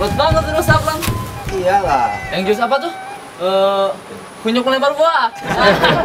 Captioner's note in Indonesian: tertawa